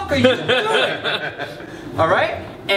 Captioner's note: laughter